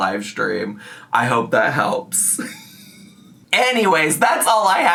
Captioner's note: laughs